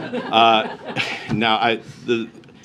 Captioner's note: laughter